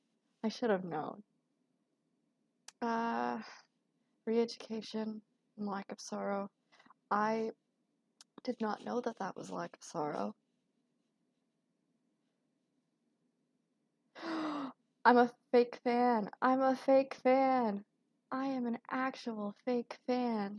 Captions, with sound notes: “Re-education” and “Lack of sorrow,” I did not know that that was “Lack of sorrow.” *gasp* I'm a fake fan, I'm a fake fan, I am an actual fake fan!